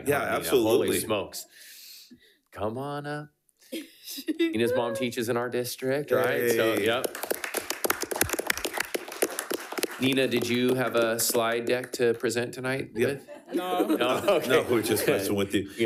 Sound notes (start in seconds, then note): 6.1 attendees clapping